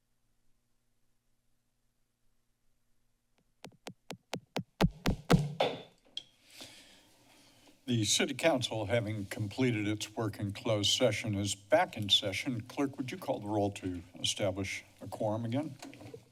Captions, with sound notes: [silence] [gavel taps] - The city council having completed its work in closed session is back in session. Clerk, would you call the roll to establish a quorum again?